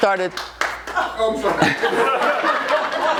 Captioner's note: audience member claps; audience laughs